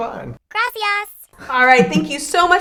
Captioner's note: speak in a foreign language